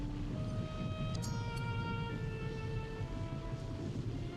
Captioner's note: blade zings